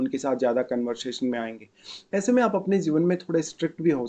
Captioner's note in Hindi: नाक से की जाने वाली आवाज़